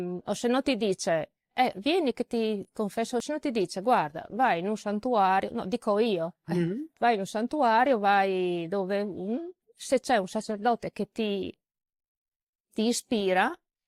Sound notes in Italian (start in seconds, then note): 6.5 schiarire la voce